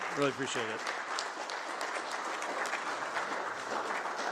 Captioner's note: applause